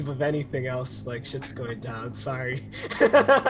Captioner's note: laughs